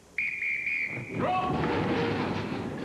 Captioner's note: whistle blows